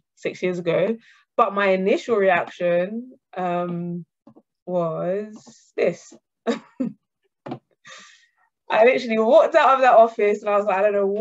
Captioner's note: laughter